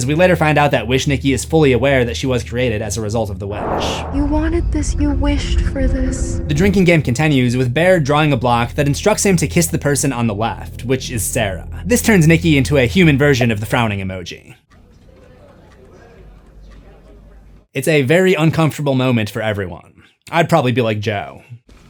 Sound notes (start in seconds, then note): 14.4 clock ticking